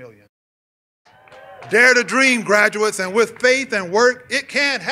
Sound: cheers and applause

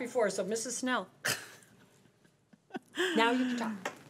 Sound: laughing

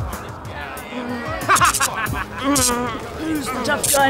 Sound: Bray moans

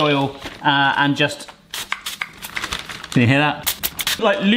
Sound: oil hissing

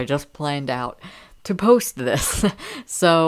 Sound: laughing

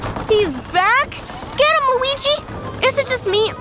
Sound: ghost vocalizing throughout

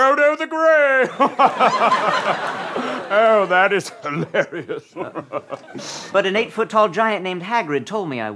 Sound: giggles; laughs

